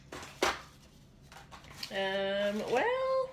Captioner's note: papers rustling